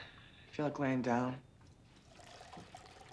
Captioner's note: water run